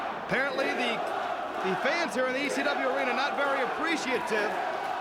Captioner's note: crowd cheering